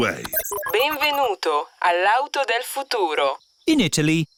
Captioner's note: chuckles; beeps; speaks italian